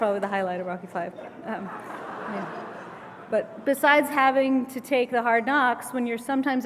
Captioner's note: laugh